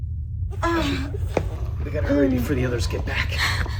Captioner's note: Kathleen groaning